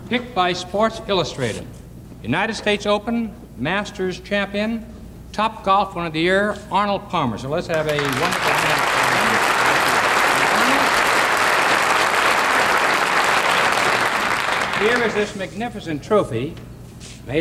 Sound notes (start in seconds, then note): 10.2 audience applauding